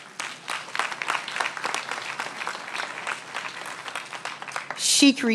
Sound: applause

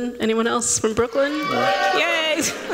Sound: cheering

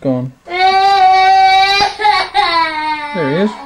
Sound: crying

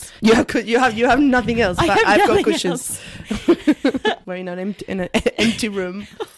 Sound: laughs

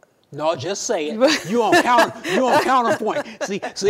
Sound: women laugh

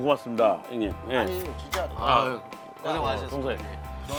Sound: handshake

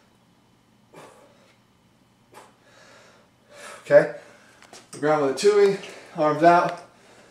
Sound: pause

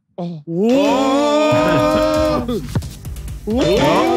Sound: Sidemen oohing

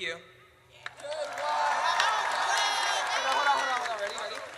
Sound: audience cheers

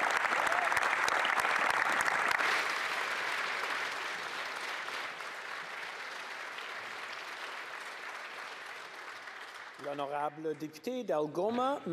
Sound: applause

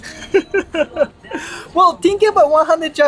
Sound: laughs

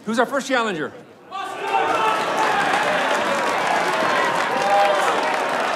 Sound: crowd cheering and applauding

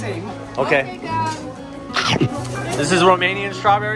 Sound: crunch

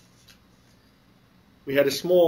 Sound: pause

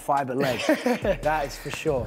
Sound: laughing

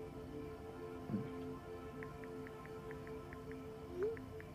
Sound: keypad clacking

